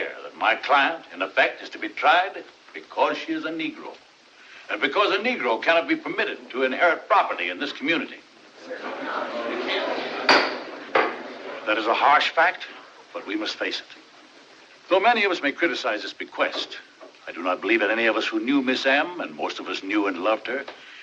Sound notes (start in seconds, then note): 8.5 murmuring; 10.2 gavel Pounds